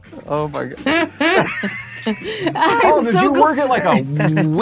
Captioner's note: laughing